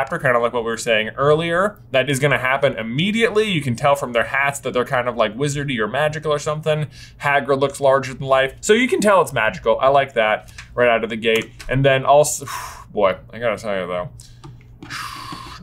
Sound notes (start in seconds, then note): 14.8 blows